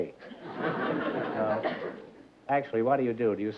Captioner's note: laughter